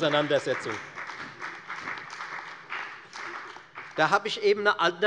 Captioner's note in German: Beifall bei der FDP und bei Abgeordneten der CDU